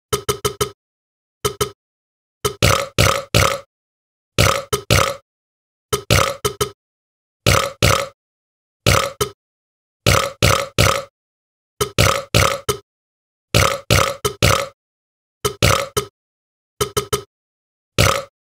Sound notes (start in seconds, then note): none